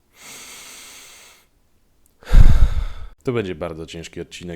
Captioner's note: deep breath